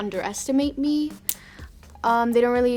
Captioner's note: nails clicking